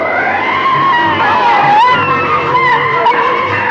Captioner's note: screams